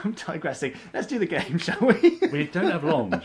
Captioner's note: laughs